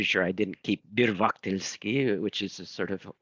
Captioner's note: speaking in foreign language